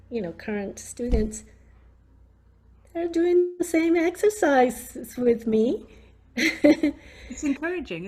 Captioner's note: laughs